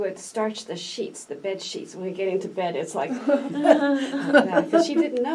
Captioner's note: all laugh